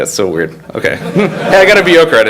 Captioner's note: all laugh